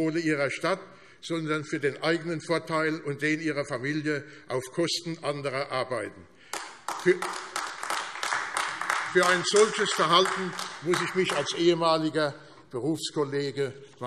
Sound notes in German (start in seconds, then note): 6.4 Beifall AfD